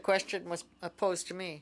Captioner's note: speaking French